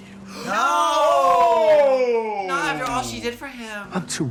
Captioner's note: simultaneously shouts "NO!"